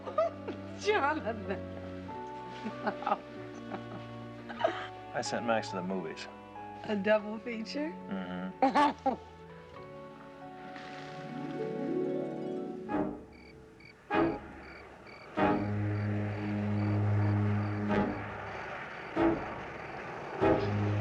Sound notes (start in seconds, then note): 8.3 giggles; 13.1 crickets chirping